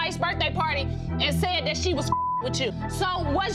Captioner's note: beep